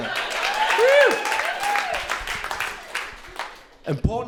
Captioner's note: crowd cheering